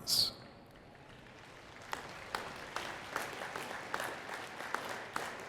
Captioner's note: attendees clapping